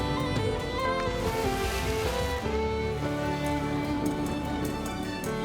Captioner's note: water splashing